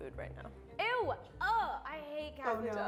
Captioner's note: groans